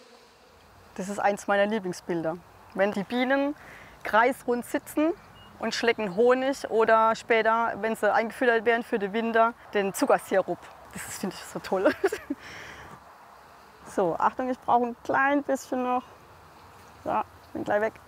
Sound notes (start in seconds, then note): 11.8 laughing